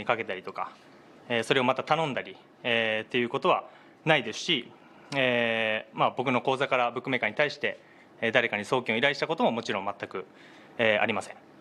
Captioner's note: speaking in global language